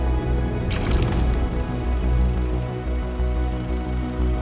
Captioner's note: projector whirring